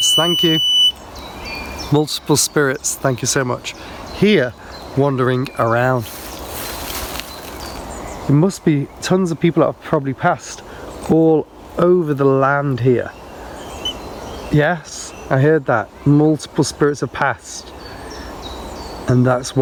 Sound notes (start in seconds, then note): 5.8 birds chirping; 13.7 beep; 18.0 birds chirping